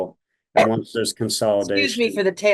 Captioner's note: coughs